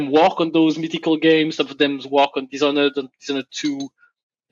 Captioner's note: none